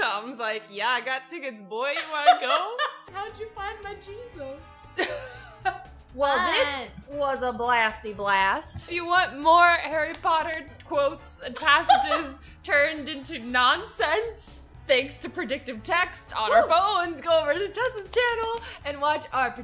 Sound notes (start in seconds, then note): 2.0 laughs; 5.4 laughs